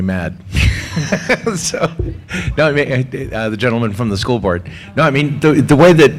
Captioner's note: laugh